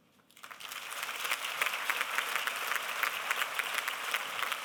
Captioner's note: applause